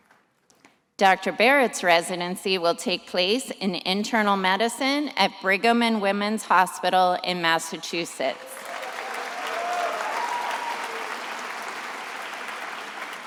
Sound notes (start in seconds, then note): 8.4 attendees applauding